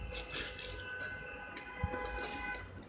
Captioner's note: traffic honks; noise of box tearing